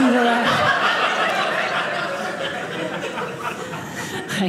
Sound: audience laughing

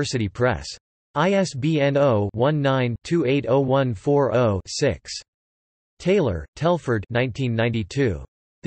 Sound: in German

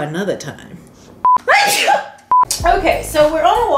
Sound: sneezes; beep

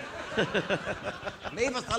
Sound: audience laughing

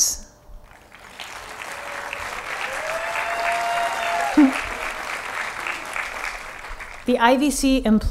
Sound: applause

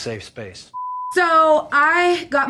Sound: blooper beeps

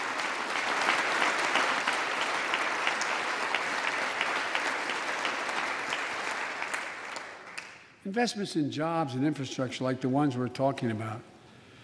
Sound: applause

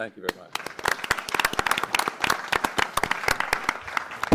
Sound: applause

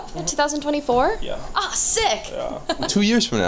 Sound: laughs

